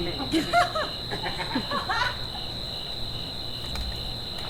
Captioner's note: Titania and Oberon laugh